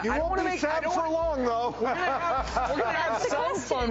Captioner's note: laughs